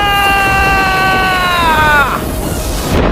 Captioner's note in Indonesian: berteriak